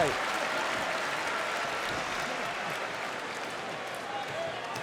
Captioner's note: audience applauds